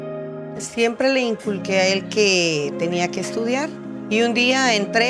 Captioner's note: in Spanish